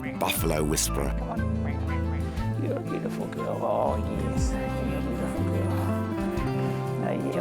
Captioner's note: quacks